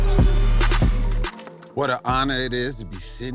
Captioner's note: audience screaming